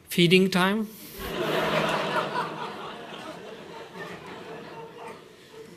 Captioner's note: laughter